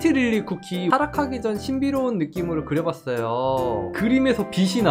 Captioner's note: voiceover